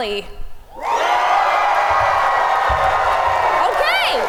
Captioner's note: audience cheers wildly